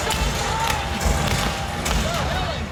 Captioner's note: gunshots firing